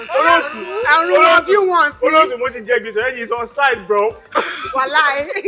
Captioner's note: laughs